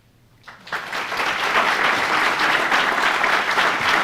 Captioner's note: audience clapping